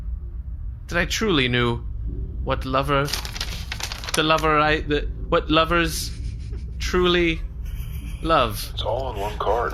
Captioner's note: flips through script